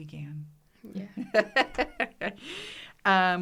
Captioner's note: laughs